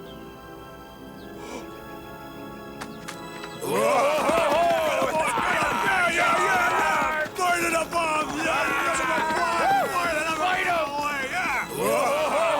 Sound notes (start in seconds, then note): 1.4 gasps; 1.7 monsters shouting; 10.5 shouting